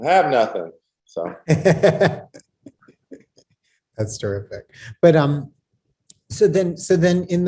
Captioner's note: laughs